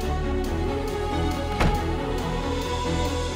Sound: door falls closed

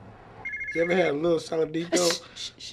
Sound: phone ringing

